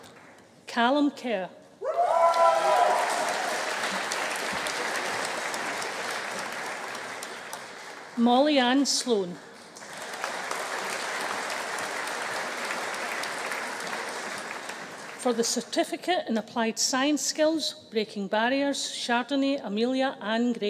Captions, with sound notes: Callum Kerr. (AUDIENCE CHEERING) (AUDIENCE APPLAUDING) Mollyanne Sloan. (AUDIENCE CHEERING) For the Certificate in Applied Science Skills Breaking Barriers, Chardonay Amelia Anne Gray.